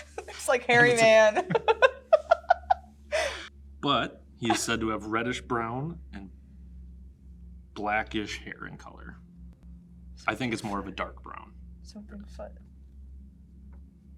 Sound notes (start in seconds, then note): 0.0 laughs